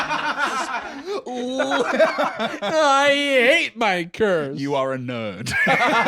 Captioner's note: both laughing; whinily; both laugh